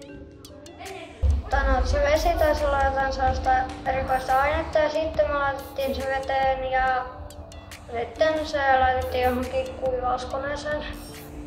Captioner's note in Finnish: lapsen ääni